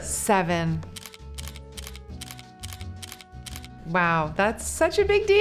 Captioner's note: camera snapping